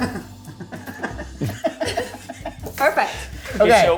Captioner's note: laughs